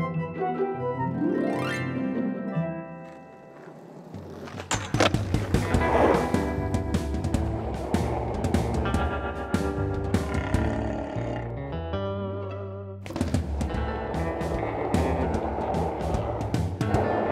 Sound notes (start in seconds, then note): 9.6 stomach growling; 13.0 skateboard rolling